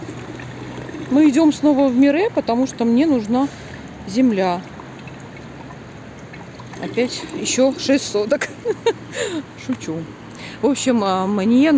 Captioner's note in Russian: смех